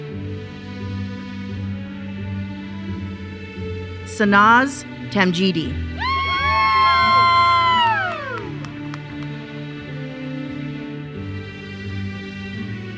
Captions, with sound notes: Sanaz Tamjidi (attendees cheering) (uplifting music continues)